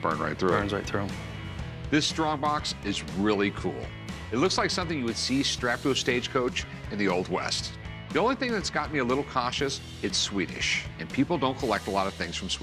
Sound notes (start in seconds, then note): none